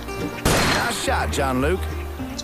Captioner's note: gunshot